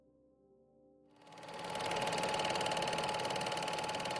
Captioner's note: film projector whirring